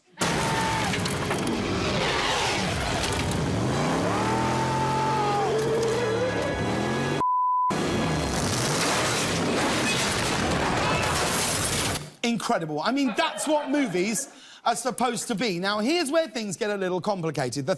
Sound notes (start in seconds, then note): 0.2 crashing sounds